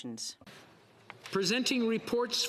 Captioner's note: speaking French